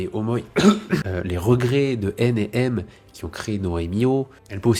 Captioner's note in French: tousse